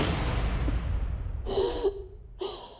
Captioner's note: crying